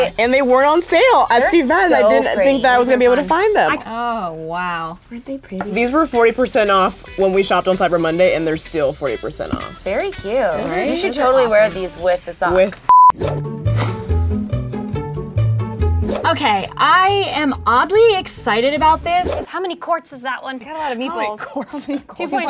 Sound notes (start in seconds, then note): 12.8 beep; 21.1 laughs